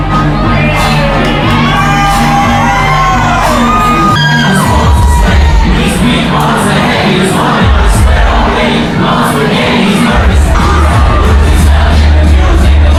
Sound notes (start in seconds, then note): 1.9 crowd Cheering; 1.9 upbeat Music